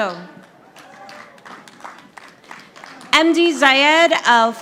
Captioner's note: audience applauding